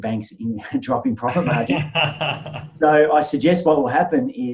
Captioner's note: laughing